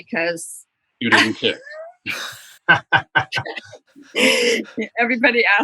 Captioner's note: laughter